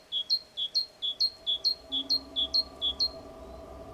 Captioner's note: birds calling